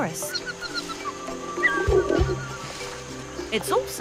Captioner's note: orangutans squeaking